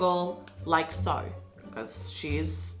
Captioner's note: Australian accent